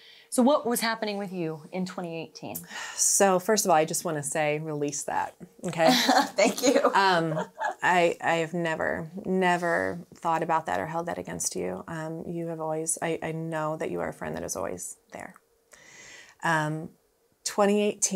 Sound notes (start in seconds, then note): 5.8 laughs